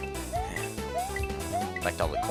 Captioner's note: sigh